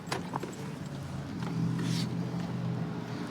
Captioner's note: distant traffic hum